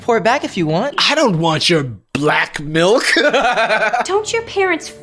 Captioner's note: laughs